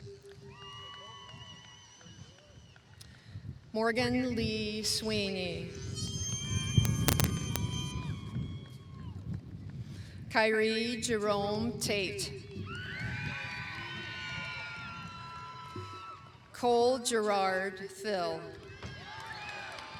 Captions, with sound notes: Morgan Lee Sweeney. Kyrie Jerome Tate. (cheering) Cole Gerard Thill.